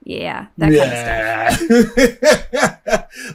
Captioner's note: chuckles